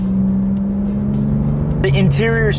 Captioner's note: engine sound